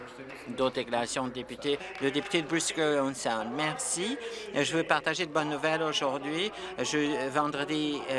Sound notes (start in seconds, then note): 0.7 speaking Alternate Language; 3.7 applause